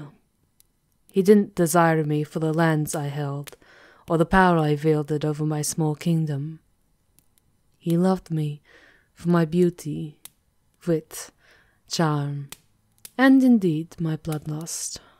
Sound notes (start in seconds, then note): none